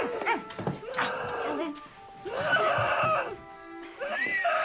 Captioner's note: moaning